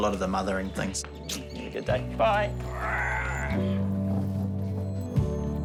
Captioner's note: smooches; grunts; ambient music